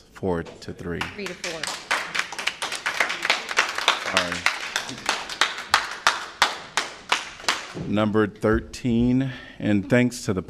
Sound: applause

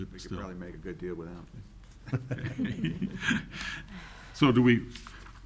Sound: laughs

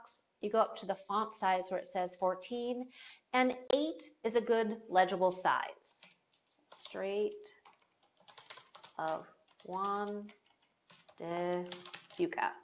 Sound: typing sounds and mumbling

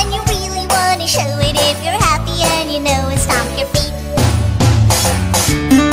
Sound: stomp stomp

